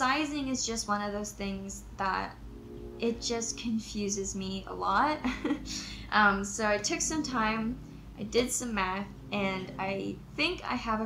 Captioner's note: chuckles